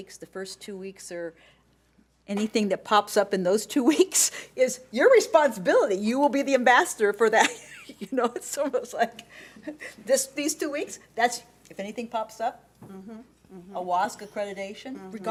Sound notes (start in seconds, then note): 7.9 laughing